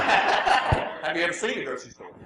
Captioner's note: laughs